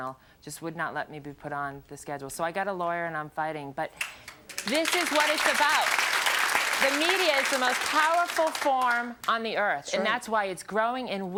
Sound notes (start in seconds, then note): 4.0 audience clapping